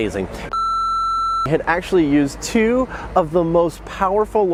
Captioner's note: beep